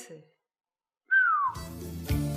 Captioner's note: whistles